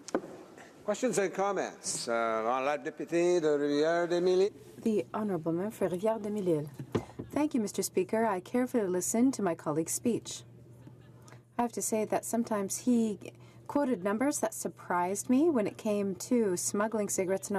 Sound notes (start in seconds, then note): 8.7 speaking French